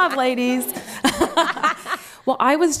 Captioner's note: laughter